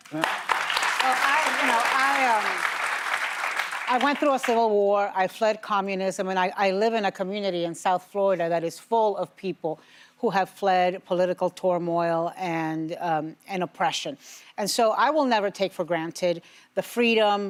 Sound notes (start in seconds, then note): 2.8 applause